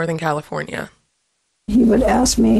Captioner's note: soundbite of archived recording